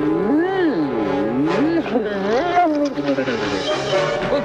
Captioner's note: moaning